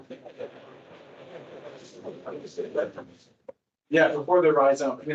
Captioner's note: static crackling